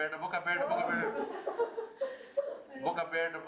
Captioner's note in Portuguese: risos